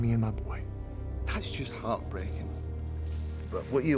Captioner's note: scottish accent